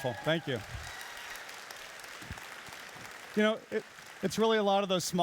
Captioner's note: applauding and cheering